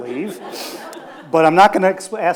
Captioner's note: audience laughs